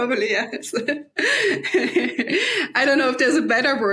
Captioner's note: laughing